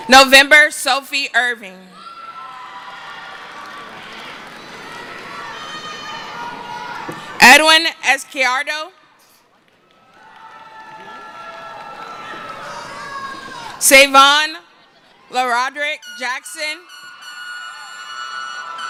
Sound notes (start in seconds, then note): 9.6 cheering